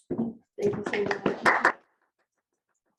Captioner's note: audience clapping